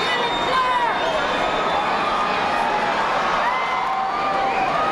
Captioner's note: crowd heckling